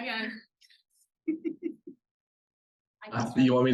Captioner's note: attendees laughing